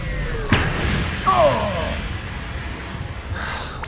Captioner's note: sieger shatters